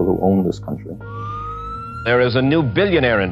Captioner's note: police siren